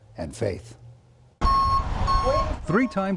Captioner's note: parking sensors beeping